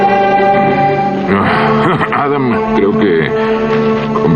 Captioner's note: clearing throat